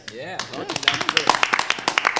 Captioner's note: people laughing